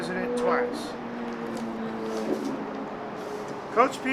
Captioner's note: engine revving